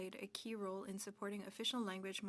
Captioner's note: speaking French